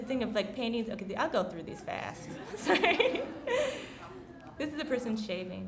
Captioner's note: laughing